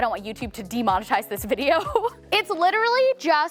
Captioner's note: chuckles